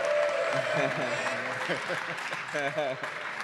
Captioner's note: applause